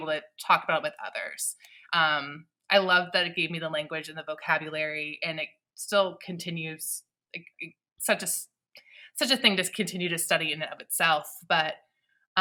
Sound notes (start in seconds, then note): none